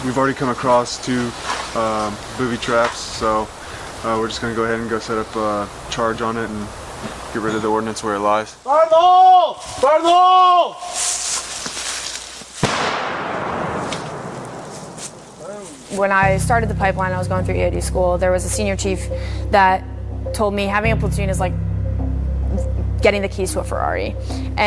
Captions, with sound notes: - We've already come across two booby traps, so we're just gonna go ahead, and go set up a charge on it and get rid of the ordnance where it lies. Fire in the hole, fire in the hole. (device exploding) - When I started the pipeline I was going through EOD school, there was a senior chief that told me having a platoon is like getting the keys to